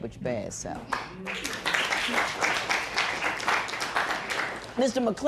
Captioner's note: applause